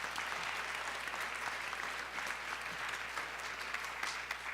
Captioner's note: applause